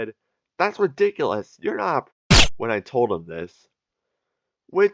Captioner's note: silenced gunfire